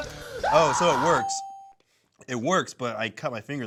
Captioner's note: screams; check mark dings